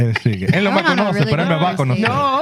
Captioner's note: speaking Foreign Language